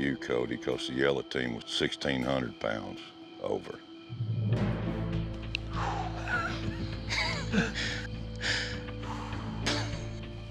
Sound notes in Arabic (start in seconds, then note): 6.2 يضحك